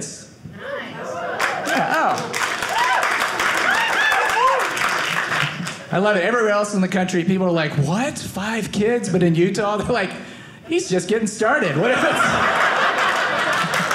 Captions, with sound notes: - Nice. - Oh. (audience cheering) I love it. Everywhere else in the country, people are like, what? Five kids? But in Utah, they're like, "he's just getting started." (audience laughing)